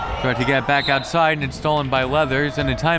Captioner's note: whistle